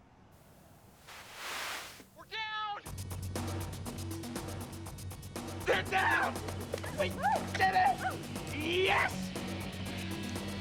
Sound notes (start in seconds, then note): 0.9 radio static